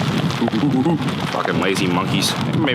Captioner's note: imitates monkey whooping